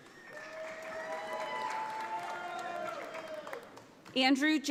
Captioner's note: audience applauds